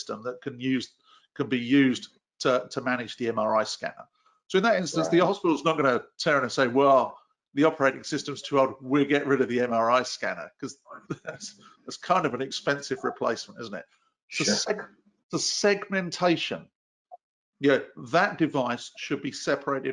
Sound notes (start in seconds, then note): 10.8 chuckles